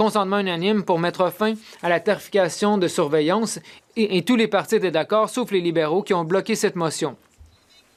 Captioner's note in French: voix de l'interprète